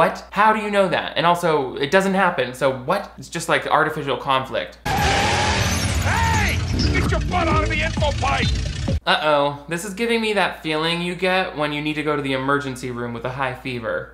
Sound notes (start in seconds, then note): 4.8 car screeching